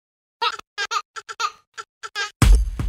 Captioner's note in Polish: śmiech dziecka; rytmiczna muzyka